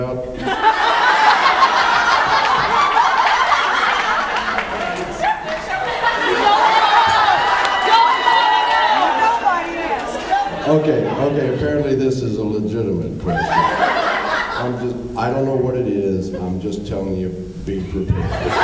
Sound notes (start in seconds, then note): 0.9 laughs, applauds; 9.1 laughs; 13.3 laughs